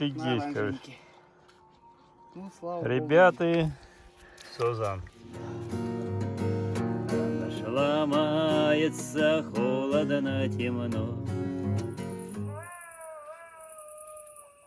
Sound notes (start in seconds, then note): 12.2 howl